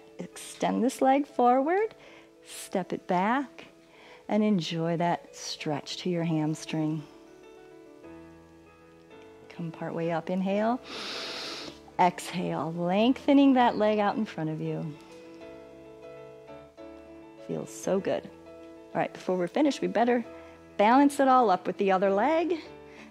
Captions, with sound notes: Extend this leg forward, step it back, and enjoy that stretch to your hamstring. Come partway up, inhale, [inhales] exhale, lengthening that leg out in front of you. It feels so good. All right, before we're finished, we better balance it all up with the other leg.